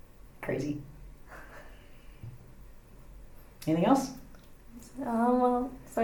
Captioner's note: pause